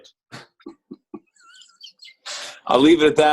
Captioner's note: laughter